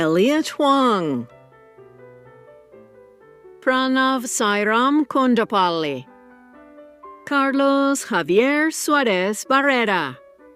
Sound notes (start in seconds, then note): none